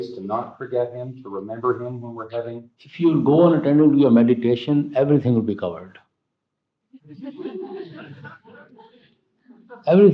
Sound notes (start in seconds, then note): 7.0 laughter